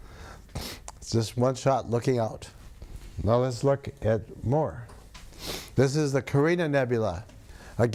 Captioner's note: sniffs